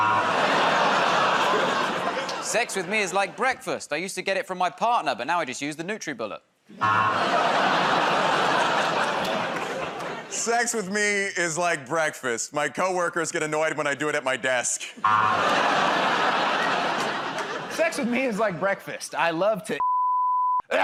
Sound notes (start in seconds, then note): 0.0 buzzer; 6.8 audience "Oh"s; 15.0 buzzer